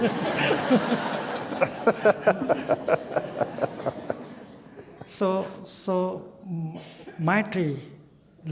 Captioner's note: Thay, audience, and Doty laugh